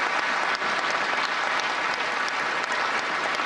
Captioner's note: applause